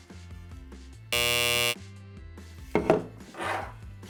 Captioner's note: buzzer buzzes